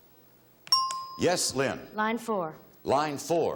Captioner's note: bell chimes